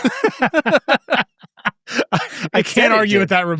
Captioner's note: laugh